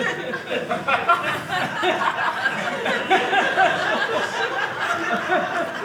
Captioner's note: audience laughing